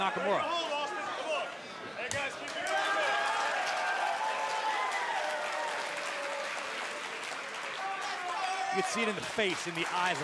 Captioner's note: crowd cheering